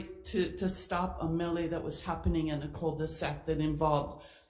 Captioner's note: none